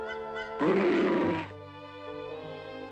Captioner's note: growls